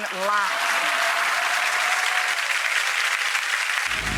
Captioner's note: audience applauding